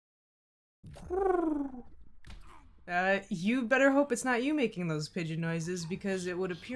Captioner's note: pigeon noise